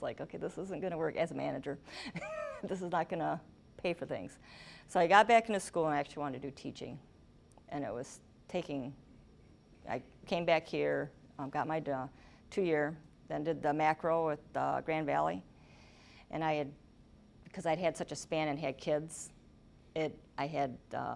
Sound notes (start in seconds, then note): 2.1 laughing